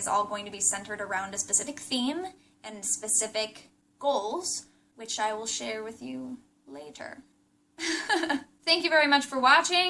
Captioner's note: laughs